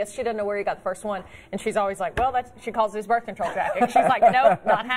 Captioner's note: laughter